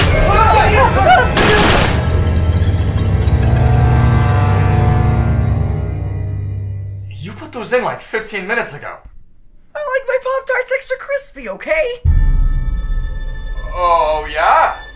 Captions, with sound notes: [gun shots] You put those in like 15 minutes ago! I like my Pop-Tarts extra crispy, okay! Oh... Yeah?